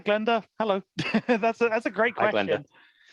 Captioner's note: laughs